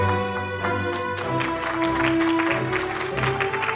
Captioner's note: audience applauds